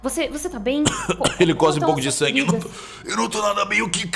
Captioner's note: cough